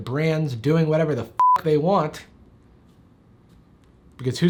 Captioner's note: beep